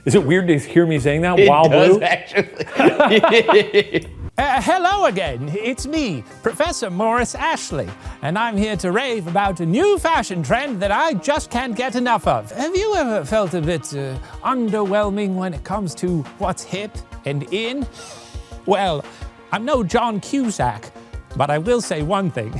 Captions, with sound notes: Is it weird to hear me saying that while blue? - It does actually. (both laughing) - Hello again. It's me, professor Morris Ashley, and I'm here to rave about a new fashion trend that I just can't get enough of. Have you ever felt a bit underwhelming when it comes to what's hip and in? Well, I'm no John Cusack, but I will say one thing.